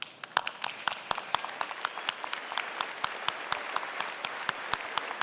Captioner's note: applause